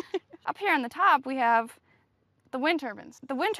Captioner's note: laugh